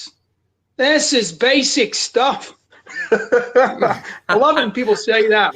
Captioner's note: laughs